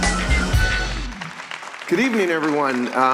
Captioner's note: applause